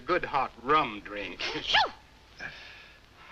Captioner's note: parrot mimicks sneeze